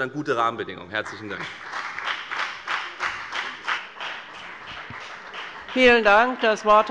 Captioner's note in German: Beifall bei der FDP